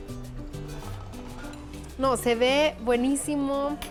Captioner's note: all speaking Spanish